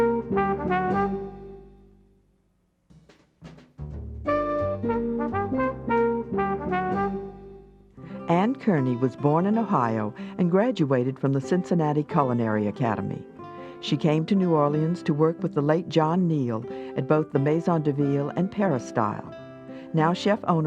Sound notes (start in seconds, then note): 4.5 jazzy music; 8.7 voiceover